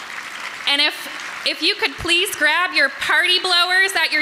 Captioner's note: applause